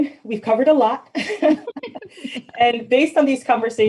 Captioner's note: both laughing